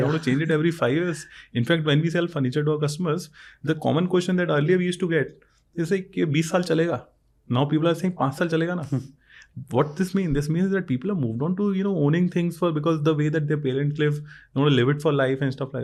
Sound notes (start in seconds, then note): 6.6 speaks in Hindi; 9.4 speaks in Hindi